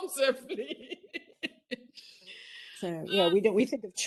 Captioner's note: laughs